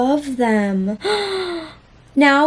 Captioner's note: dramatic gasp